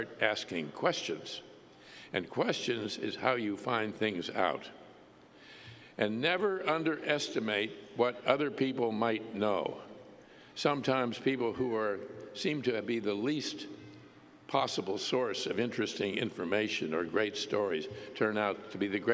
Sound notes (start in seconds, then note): none